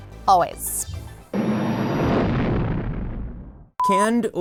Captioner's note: engine revving